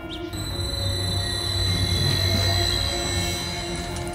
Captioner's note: machinery increases power